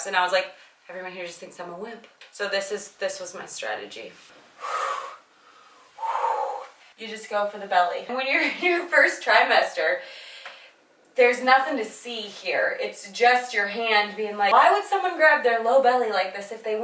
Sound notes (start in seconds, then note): 4.4 heavy breathing